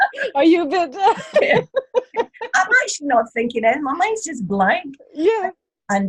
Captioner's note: laughter